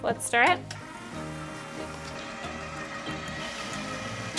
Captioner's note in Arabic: طنين الخلاط